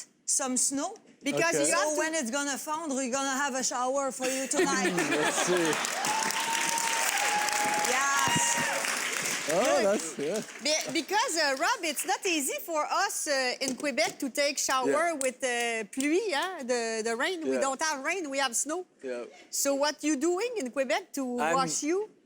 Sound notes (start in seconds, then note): 4.3 audience laughs